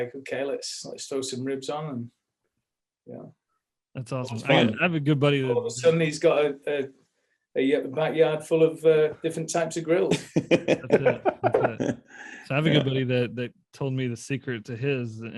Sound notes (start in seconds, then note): 10.0 laughter